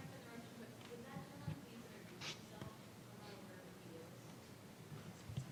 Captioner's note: faintly speaking